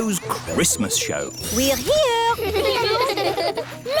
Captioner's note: children giggling